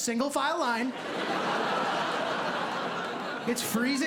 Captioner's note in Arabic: ضحك